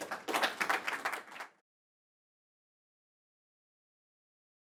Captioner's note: audience applauds